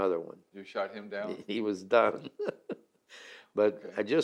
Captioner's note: laughs